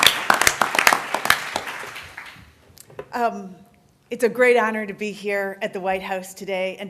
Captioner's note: applause